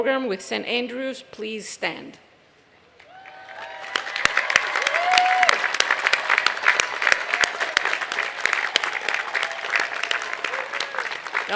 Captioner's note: applause